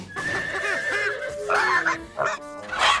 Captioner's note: bang, horse neighs; bangs, neighs